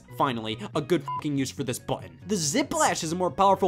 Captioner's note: beeps